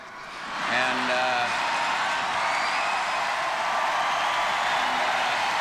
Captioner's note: audience cheering and applauding